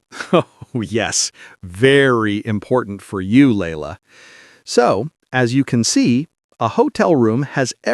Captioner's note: laughs